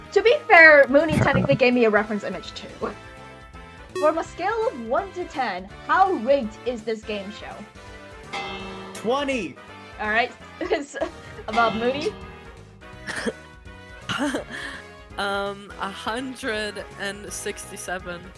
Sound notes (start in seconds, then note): 13.7 laughs